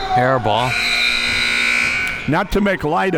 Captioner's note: buzzer blaring; whistle blowing